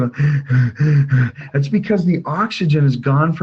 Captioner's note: heavy breathing